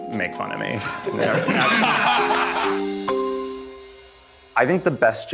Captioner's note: group laughing